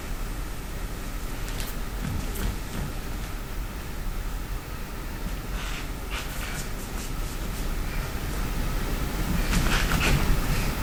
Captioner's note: dancer rolling